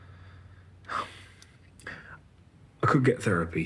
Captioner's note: he sighs, softly